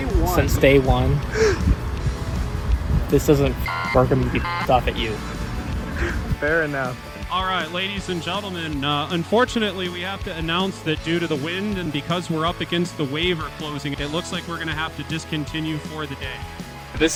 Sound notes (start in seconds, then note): 5.8 laughter